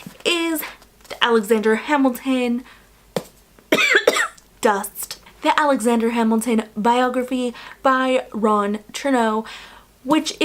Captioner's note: cough